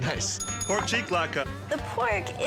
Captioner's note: bell rings